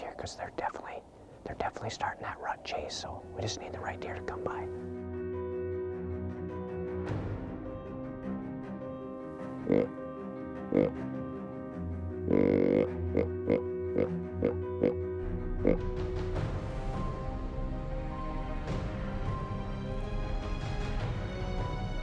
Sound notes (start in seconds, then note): 6.1 intense orchestral music; 10.2 deer grunts; 18.5 intense orchestral music